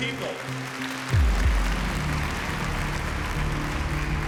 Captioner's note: applause